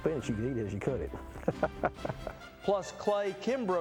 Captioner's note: laughs